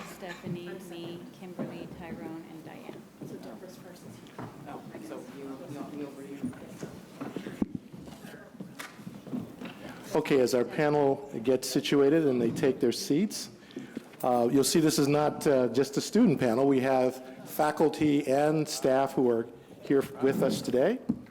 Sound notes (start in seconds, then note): 4.6 background chatter